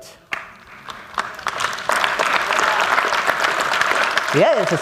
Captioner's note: applause